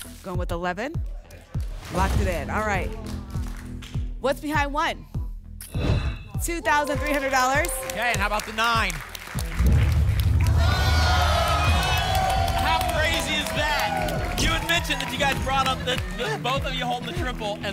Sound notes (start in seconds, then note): 3.0 light applause; 5.6 whoosh; 9.5 rumbling sounds; 10.8 applause and cheering